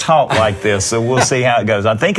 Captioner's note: laughing